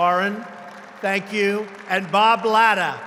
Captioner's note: applause